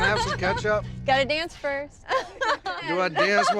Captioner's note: laughter